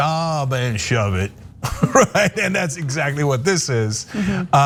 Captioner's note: laugh